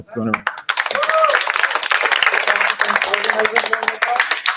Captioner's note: applause